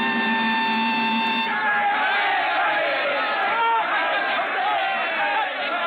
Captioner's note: cheering